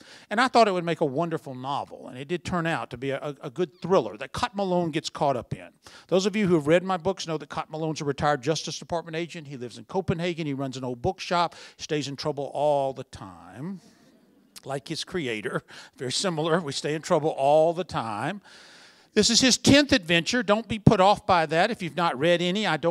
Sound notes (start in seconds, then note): 16.2 laughter